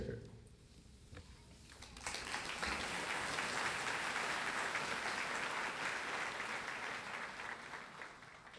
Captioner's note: applause